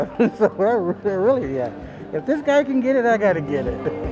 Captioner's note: laughing